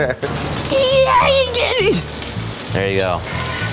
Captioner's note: squeals loudly